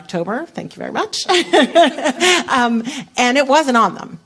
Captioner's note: laughter